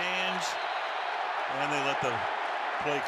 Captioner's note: whistle